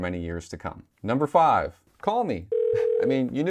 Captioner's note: phone ringing